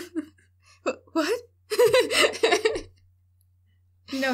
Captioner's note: laughter